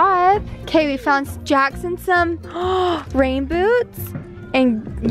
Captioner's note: gasping